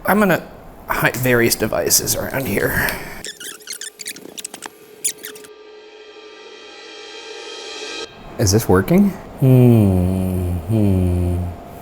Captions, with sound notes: I'm gonna hide various devices around here. (tape fast-forwarding) Is this working? Hmm, hmm.